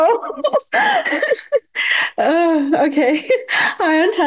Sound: laughing

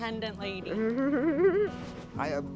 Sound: giggling

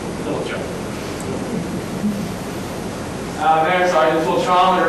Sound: class chuckles

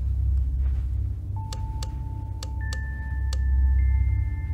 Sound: frantic light switching

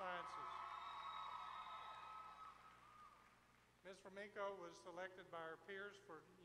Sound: applause

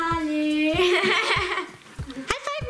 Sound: laughs

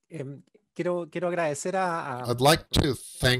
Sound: speaking foreign language

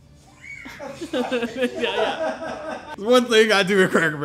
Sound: laughing

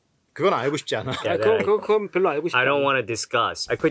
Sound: speaking in Korean

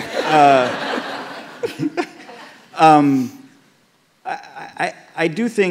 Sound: laughter

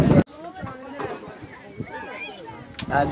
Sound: kids playing

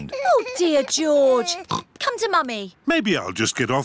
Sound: oinks

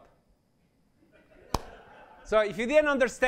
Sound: laughter

